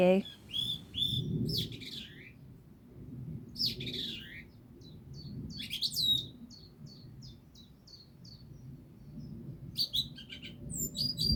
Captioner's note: bird Song